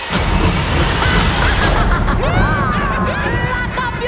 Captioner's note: laughing